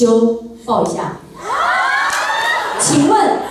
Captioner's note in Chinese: 歡呼聲